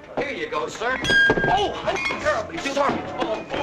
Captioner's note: man shouts; plate clatters